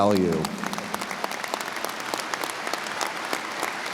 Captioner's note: audience applauds